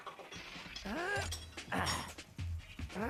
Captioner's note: Stone Cold grunting